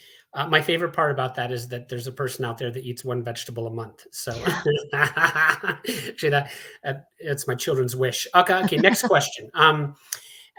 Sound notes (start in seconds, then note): 4.3 laughs